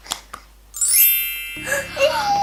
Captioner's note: bells; gasps